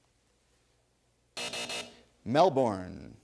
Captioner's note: buzzer